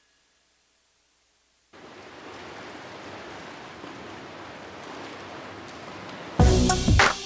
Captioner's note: Bruitages de vent